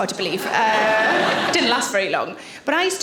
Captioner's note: audience laughing